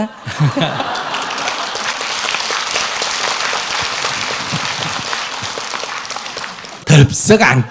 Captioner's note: audience Laughter/Applause